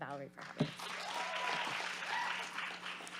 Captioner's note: audience applauds and cheers